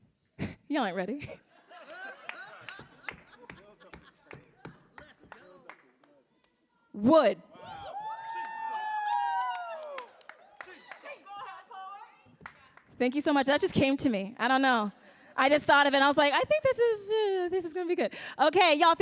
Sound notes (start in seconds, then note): 1.2 laughs; 1.3 panelists laughing; 7.5 audience cheering